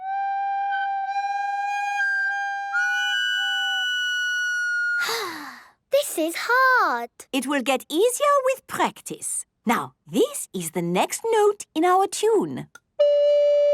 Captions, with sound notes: (off-key) (sighing) - This is hard. - It will get easier with practice. Now, this is the next note in our tune.